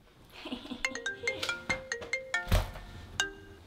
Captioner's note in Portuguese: Risos e telefone tocando